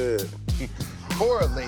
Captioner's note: laughing